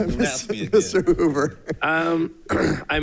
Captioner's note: people chuckling